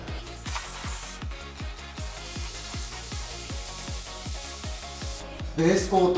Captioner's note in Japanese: 塗装音